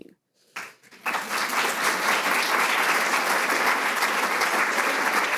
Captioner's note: audience applauding